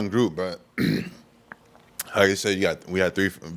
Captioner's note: clears His Voice